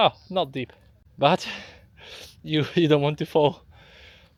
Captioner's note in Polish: Angielski